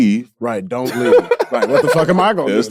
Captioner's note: laughs